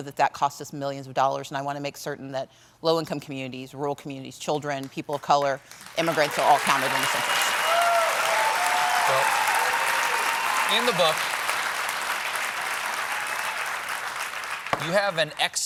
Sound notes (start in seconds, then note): 11.1 applause